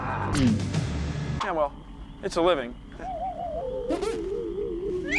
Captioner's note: chuckles